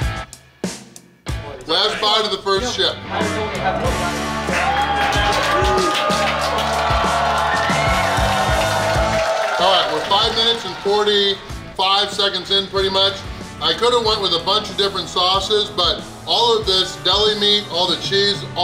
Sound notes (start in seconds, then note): 4.9 people cheer happily; 4.9 upbeat guitar music